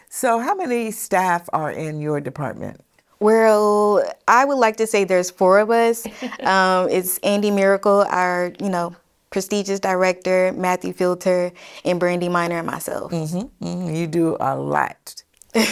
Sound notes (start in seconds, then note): 6.0 laughs